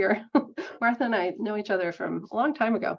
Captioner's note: laughing